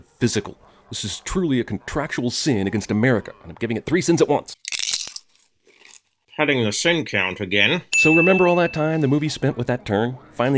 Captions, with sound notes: *crunch* Padding the sin count again.